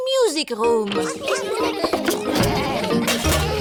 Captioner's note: laughter